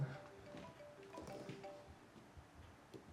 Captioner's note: mobile ringing